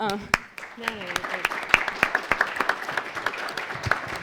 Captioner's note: audience applauds